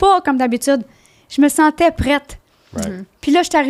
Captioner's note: in french